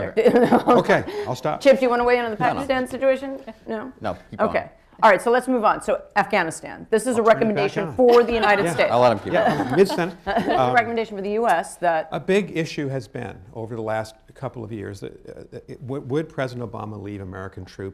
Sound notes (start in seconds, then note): 0.2 laughs; 8.0 laughter